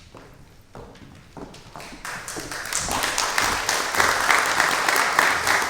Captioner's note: applause